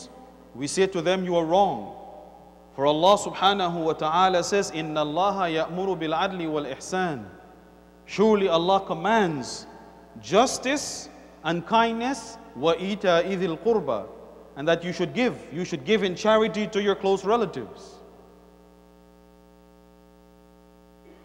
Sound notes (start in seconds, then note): 7.7 Arabic